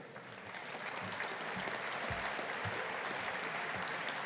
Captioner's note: audience applauding